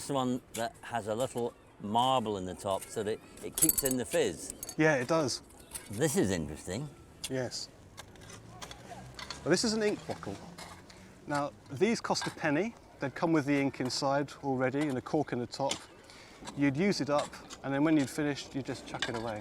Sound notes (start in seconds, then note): 3.5 bottle rattles